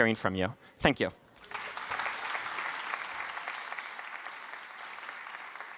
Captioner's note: applause